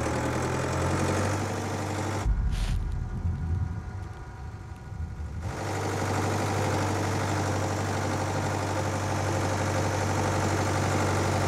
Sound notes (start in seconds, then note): 0.5 tractor engine rumbles